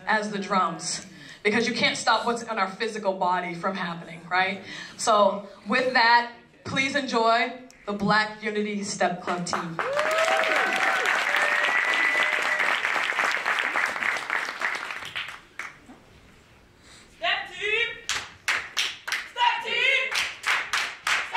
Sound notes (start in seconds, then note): 9.4 applause